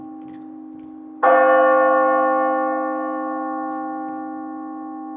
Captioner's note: bell ringing